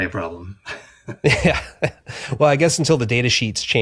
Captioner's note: chuckles